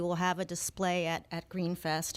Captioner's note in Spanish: Hablando ingl\s